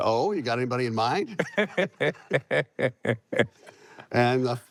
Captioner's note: laughs